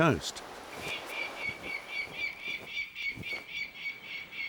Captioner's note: falcon calls